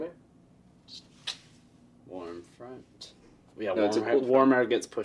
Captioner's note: sucks teeth